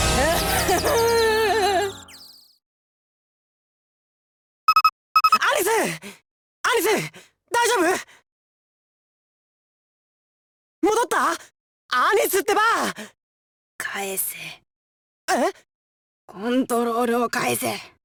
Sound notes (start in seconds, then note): 9.6 silence